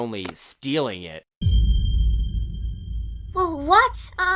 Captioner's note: ominous chime